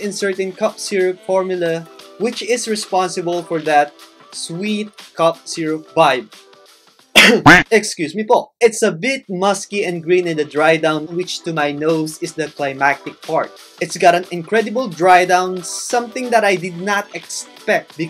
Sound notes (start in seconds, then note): 7.1 cough